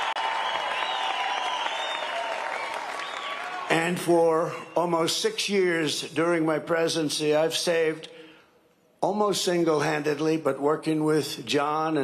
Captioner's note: cheering and applause